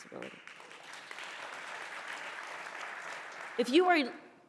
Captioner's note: audience applauding